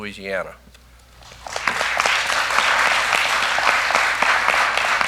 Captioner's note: applause